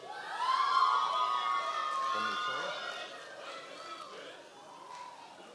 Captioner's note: members of the audience cheering